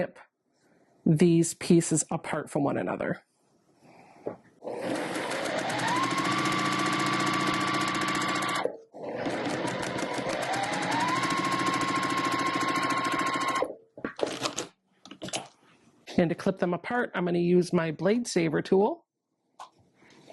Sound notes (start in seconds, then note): 4.8 sewing Machine Noises